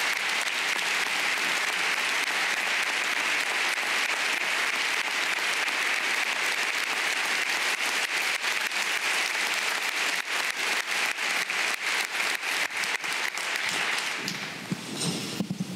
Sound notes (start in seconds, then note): 2.8 applause